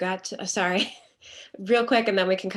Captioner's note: laughs